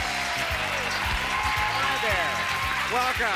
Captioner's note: cheers